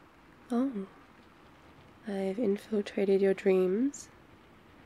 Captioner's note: surprised